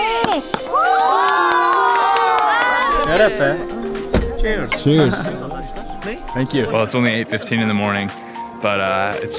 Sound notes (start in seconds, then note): 0.1 cheering